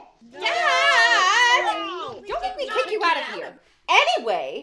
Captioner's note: general outcry